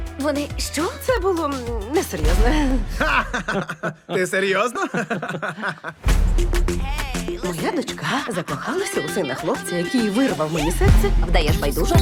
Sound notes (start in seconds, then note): 2.7 laughing; 4.7 all laughing; 6.1 tropical music continues